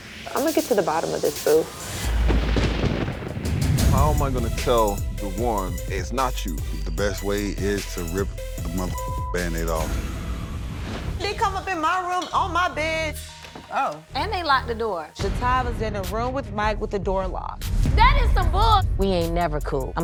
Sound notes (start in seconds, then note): 0.3 thunder rumbles